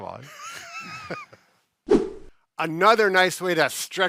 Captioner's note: laughing